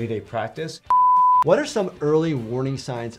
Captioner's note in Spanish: pitidos de transmisión